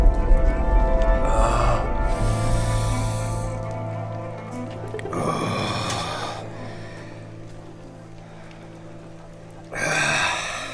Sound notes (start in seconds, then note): 2.1 inhales sharply; 5.2 groaning